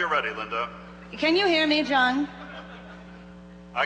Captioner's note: voiceover